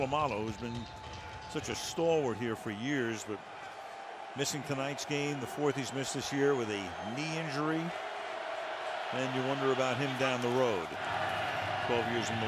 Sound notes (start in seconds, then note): 9.0 cheering